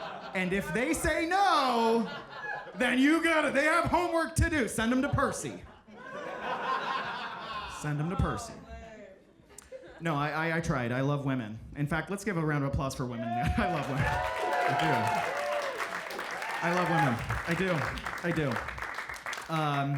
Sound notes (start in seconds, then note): 0.0 audience laughs; 5.0 audience laughs; 13.2 audience cheering; 13.4 audience clapping